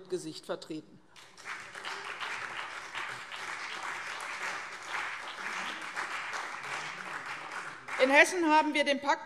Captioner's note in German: Beifall CDU, BÜNDNIS 90/DIE GRÜNEN und SPD